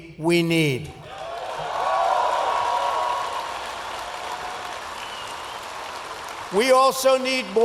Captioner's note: applause